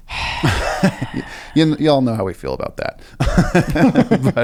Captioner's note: both laugh; laughs